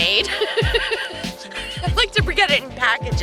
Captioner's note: laughs